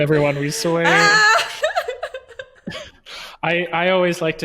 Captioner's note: laughing